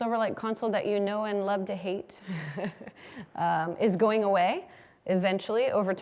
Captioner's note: laugh